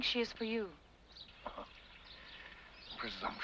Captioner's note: Rochester scoffs